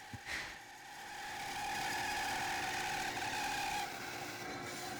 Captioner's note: bandsaw quietly whining